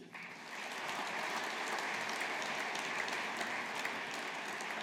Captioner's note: audience applauding